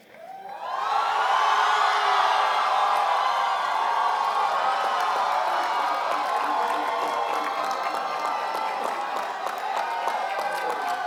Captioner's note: applause